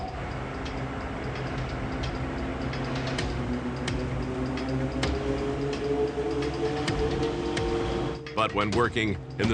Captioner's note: vacuum